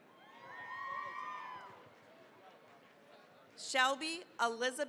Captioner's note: cheering, applause